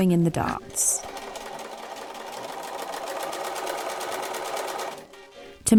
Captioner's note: machine whirring